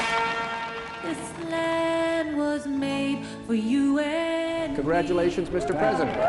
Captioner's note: applause